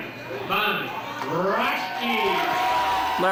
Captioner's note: crowd cheering